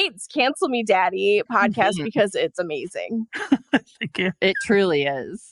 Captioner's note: laughs